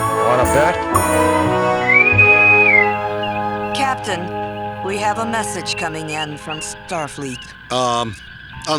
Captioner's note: incoming message Hail